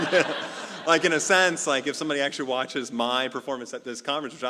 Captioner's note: laugh